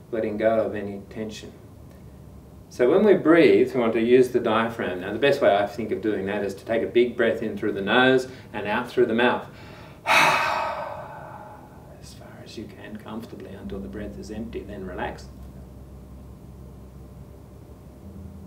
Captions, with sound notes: Letting go of any tension. So when we breathe we want to use the diaphragm. Now the best way I think of doing that is to take a big breath in through the nose and out through the mouth. (exhales) As far as you can comfortably until the breath is empty. And then relax.